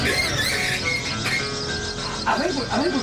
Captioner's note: car stopping